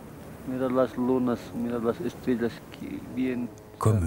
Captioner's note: quechua spoken audio